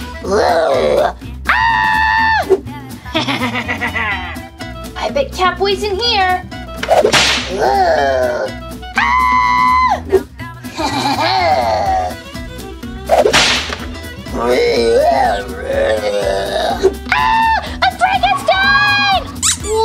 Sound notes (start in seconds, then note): 0.2 vampire Growls; 1.4 Gekko Screams; 3.1 vampire Laughs; 7.5 monster Groans; 10.8 monster Cackles; 14.3 Frankenstein Growls; 17.0 Gekko Screams